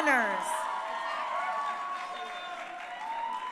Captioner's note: crowd cheering